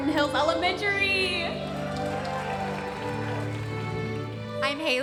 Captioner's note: audience applauding